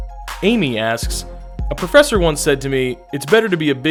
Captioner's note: voiceover